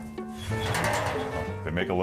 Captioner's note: metal clattering